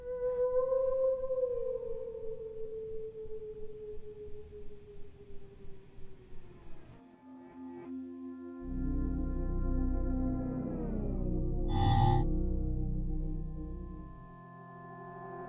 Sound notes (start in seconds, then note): 11.7 buzzing sound